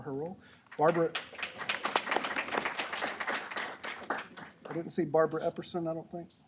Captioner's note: applause